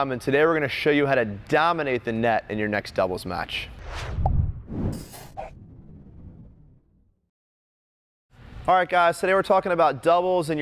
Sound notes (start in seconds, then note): 3.8 whooshing and bouncing ball